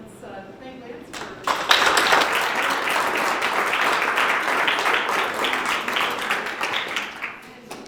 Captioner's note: applause